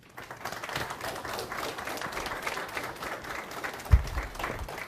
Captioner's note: audience applauds